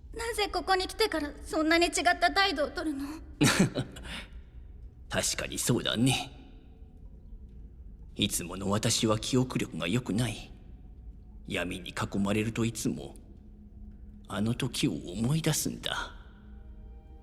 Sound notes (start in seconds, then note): 3.4 chuckles